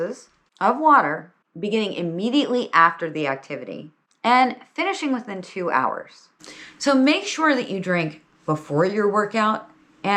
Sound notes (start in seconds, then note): none